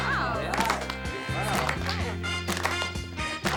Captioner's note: laughs; students clap rhythmically; upbeat 60s pop music